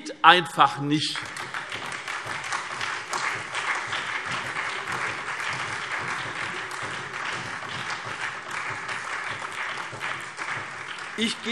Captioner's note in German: Beifall SPD und DIE LINKE